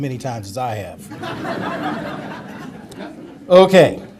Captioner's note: audience laughter